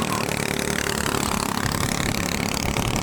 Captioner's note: engine noise